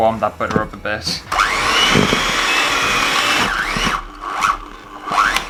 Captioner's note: electric Whisk Noise